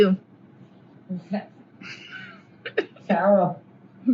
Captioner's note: laughs